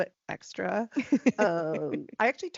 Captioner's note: laughing